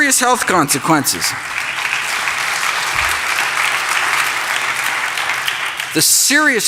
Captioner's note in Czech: Potlesk